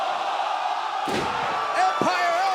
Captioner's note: crowd cheering